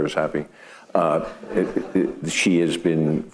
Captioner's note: audience laughing